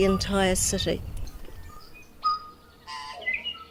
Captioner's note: birdsong